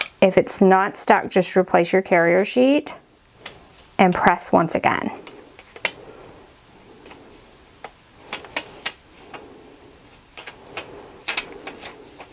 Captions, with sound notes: If it's not stuck, just replace your carrier sheet and press once again. (carrier sheet rustling)